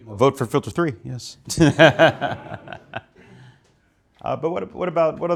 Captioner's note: laughing